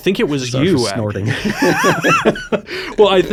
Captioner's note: both laughing